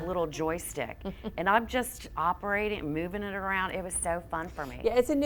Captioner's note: laughs